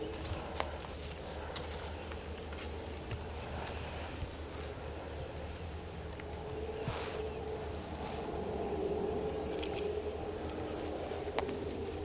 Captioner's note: deer footsteps heard